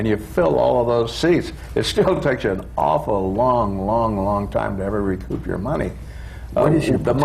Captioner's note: laughs